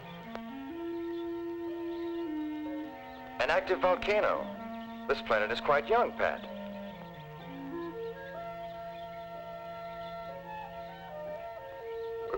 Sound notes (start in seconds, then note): 0.2 gentle music; 6.8 birds chirping; 6.8 gentle music